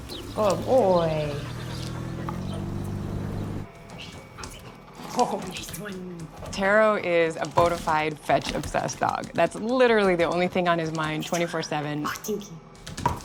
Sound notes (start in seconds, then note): 0.5 dog panting